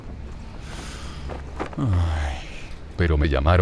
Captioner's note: sighs